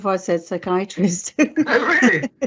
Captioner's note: laughs